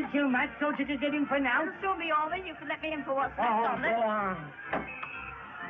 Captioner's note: crowd cheering